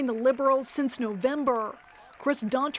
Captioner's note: applause